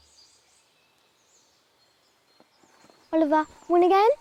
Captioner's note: birds chirping